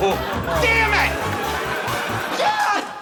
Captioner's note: chuckles